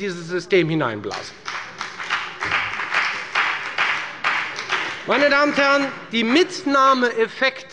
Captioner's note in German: Beifall bei der FDP